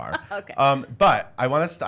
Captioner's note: laughs